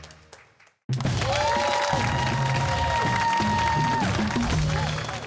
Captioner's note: cheers and applause